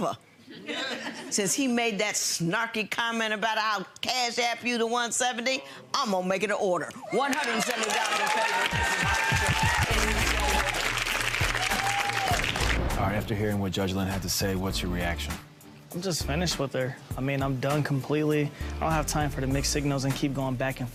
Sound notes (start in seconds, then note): 10.1 audience applauds; 10.1 upbeat music